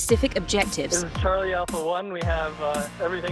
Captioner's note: voiceover